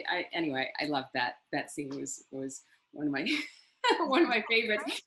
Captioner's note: laughs